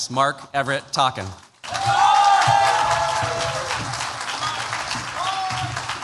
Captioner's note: cheers, applause